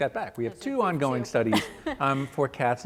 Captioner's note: laughs